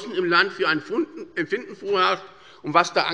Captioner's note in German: none